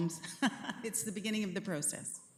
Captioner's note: chuckles